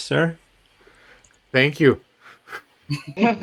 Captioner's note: laughter